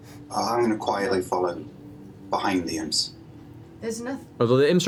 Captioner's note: none